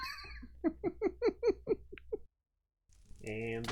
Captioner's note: laughs